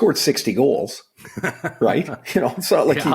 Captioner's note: laughing